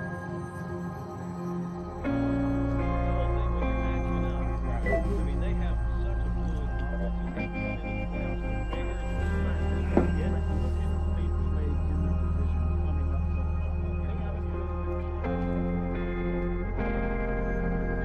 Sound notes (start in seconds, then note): 4.8 cellphone chimes; 9.9 bottle thuds